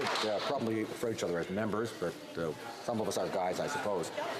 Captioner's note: some Applause